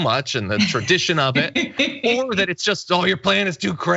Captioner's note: laugh